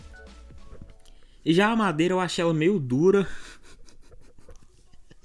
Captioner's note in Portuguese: Risadas